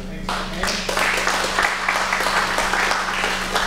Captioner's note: audience clapping